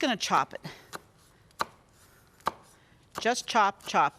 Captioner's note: knife chopping